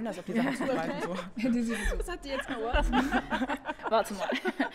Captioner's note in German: Gelächter